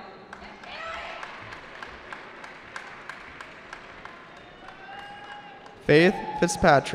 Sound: cheering

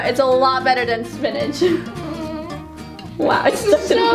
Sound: whines

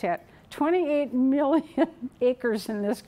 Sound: chuckling

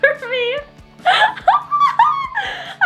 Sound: laughing

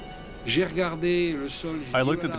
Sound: speaking foreign language

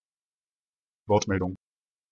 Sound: fast Pronunciation

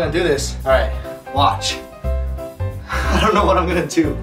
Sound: chuckling

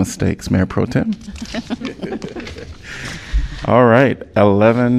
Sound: laughter

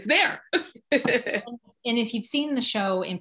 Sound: laugh

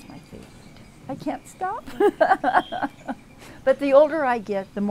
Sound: laughs

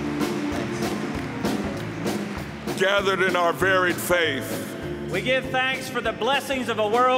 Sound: applause

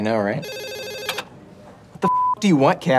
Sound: phone ringing

